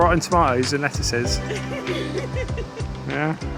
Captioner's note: laughing